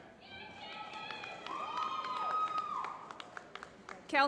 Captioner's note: applause